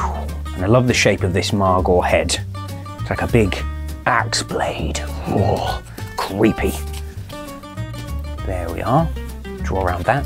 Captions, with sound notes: And I love the shape of this Margore head. it's like a big axe blade. [SHUDDERS] Creepy! There we are - draw around that.